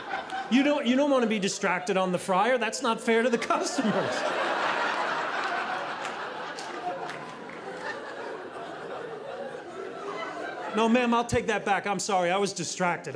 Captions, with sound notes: You don’t, you don't want to be distracted on the fryer. That's not fair to the customers. (audience laughing) No, ma'am, I'll take that back. I'm sorry, I was distracted,